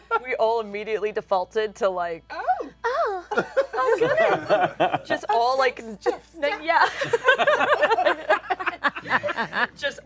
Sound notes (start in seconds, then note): 2.8 breathy; 3.3 laughter; 6.8 laughter